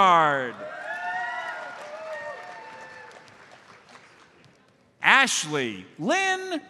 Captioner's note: audience cheers and applauds